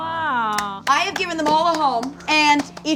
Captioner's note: clapping